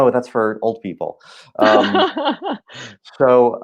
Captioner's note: laughing